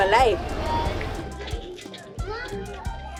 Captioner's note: many kids talking